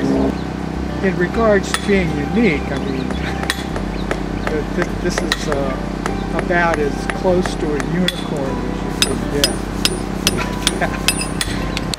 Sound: chuckles

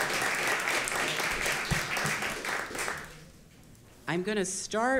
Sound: applause

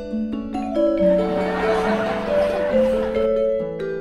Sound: happy Music; laughter; happy Music

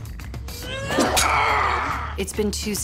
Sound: cries out; grunts

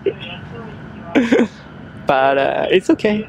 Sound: laughs

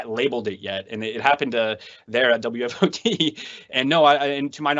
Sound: laughs

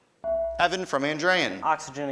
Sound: ding

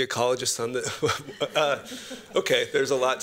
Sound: laughter

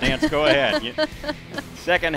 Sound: laughs

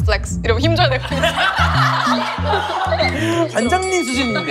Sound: laughing

